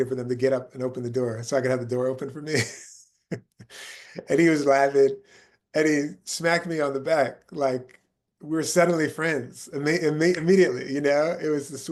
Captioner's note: laughing